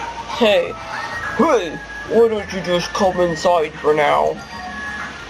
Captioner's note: in a deep voice